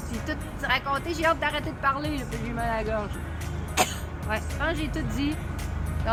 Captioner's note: cough